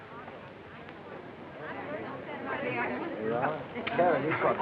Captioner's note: chatter